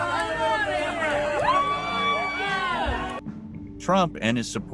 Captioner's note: crowd cheering